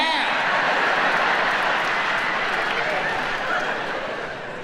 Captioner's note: audience laughing